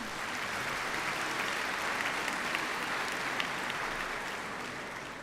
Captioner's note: applause